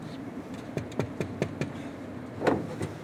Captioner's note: knocking